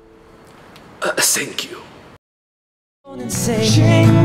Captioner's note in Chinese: 日本腔